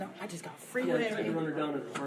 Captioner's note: speaking faintly